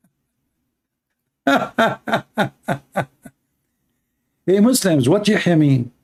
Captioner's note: Ketawa